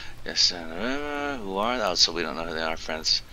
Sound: mumbling while reading

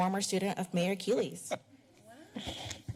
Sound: laughter

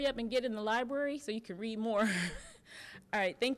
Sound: chuckling

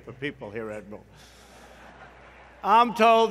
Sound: laughter

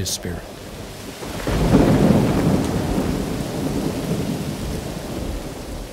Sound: thunder rumbling, rain falling

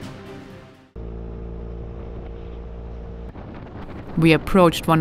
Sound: motorcycle roaring

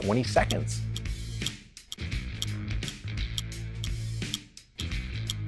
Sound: ticking timer

